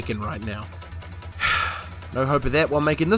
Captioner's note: sigh